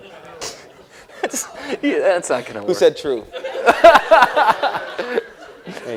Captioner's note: laughter